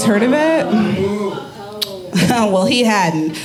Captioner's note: audience groaning